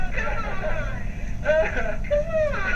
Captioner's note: laughs